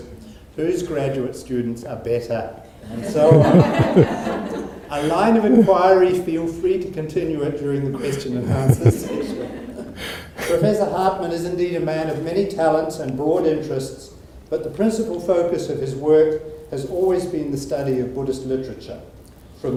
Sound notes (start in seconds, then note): 2.9 audience laughs; 8.0 laughing